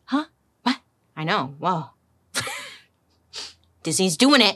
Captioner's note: laughs